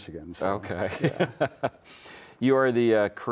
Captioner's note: laughs